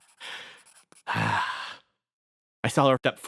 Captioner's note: sigh